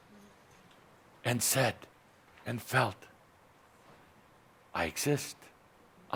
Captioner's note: none